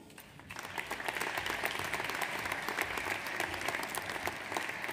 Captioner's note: audience applauds